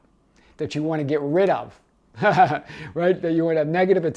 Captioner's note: laughing